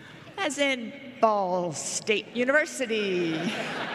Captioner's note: laughter